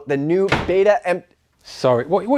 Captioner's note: door slamming